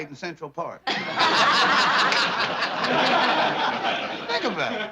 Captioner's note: laughter